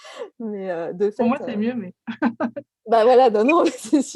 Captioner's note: laugh